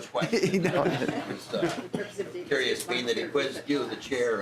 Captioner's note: laughter